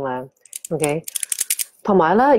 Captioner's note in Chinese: 帶鏈聲